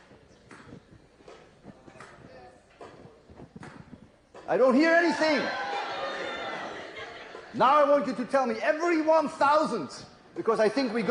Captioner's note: crowd roars